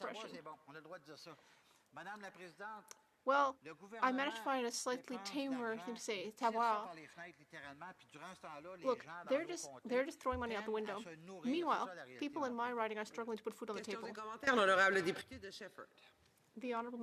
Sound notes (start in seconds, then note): 10.3 speaking French